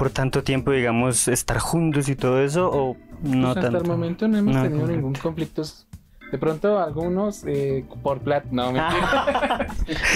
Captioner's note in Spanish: risas